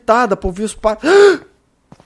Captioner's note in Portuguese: suspiro alto